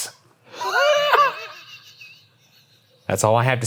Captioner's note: cackles